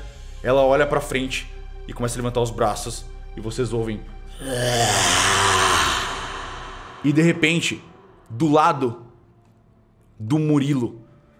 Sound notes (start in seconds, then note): 4.4 arghhr